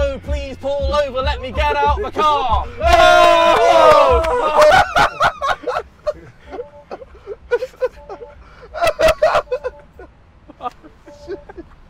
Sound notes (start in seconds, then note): 4.9 all laughing; 6.8 car beeping